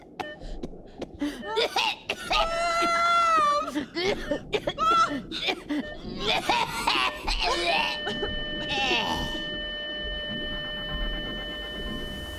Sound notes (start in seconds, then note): 0.0 heart monitor bleeps; 4.1 coughing; 7.7 heart monitor flatlines; 10.3 sobbing